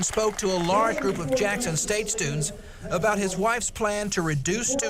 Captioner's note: applause